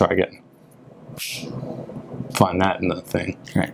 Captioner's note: snaps fingers